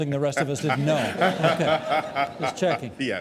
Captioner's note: audience laughing